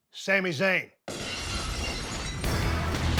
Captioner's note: glass cracks; upbeat music